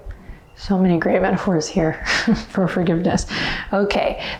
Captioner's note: chuckles